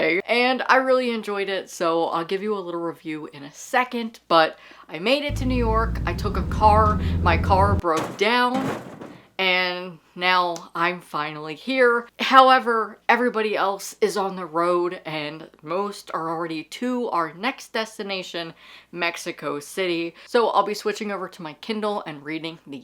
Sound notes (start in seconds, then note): 5.3 sound Effect: Car driving; 8.1 sound Effect: Car hood breaking sound